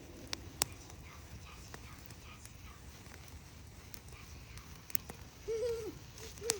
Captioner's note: wispers; giggles